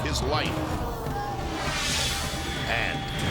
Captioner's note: logo whooshes